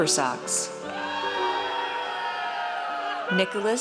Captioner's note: audience cheers